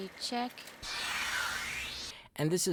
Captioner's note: electronic swishing